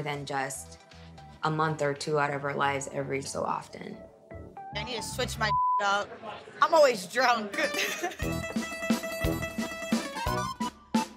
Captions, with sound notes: than just a month or two out of her lives, every so often. - I need to switch my (beep) out. I'm always drunk. (Italian music)